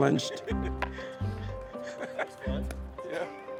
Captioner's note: player laughs